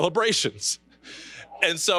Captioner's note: chuckling